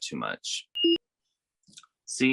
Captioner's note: beep sound